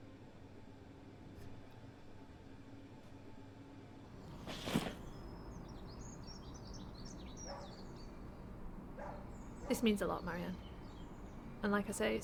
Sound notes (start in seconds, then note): 4.2 birds chirping; 7.3 dog barking